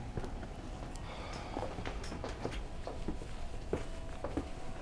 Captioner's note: sighing